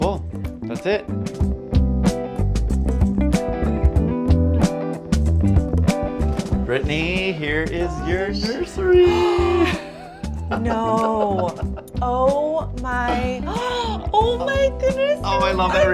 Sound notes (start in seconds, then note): 1.8 soft jazzy music plays; 8.8 laughs; 9.0 gasps; 13.4 gasps